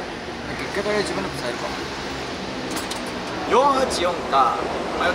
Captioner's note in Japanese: none